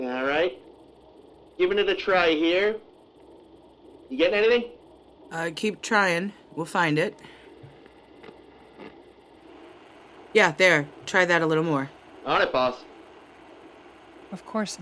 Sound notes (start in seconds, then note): 9.7 static